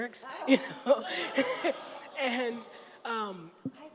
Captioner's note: laughter